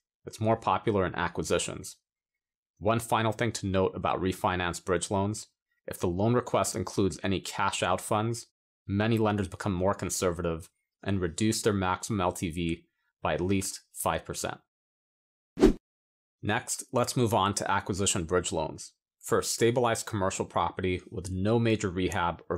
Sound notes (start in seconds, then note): 15.6 air whooshing